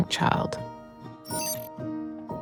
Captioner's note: glitchy fragments of signal